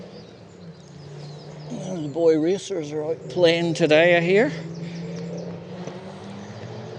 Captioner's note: loud engine noises